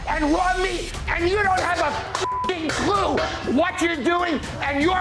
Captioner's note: beeping